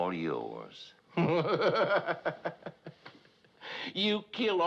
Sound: laughing

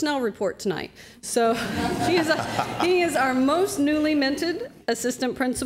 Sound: laughter

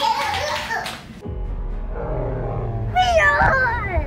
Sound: animal sounds

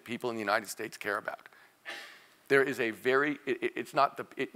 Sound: cough

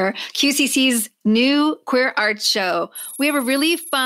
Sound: sci-fi computer typing sound

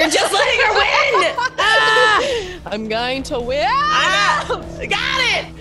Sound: laugh

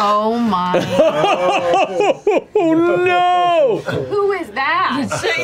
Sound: laughing

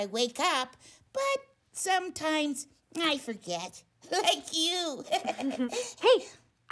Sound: laughs

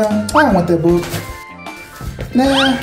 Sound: book thuds; book whistles

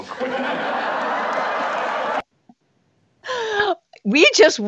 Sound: audience laughs

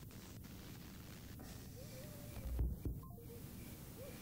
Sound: electronic crackling

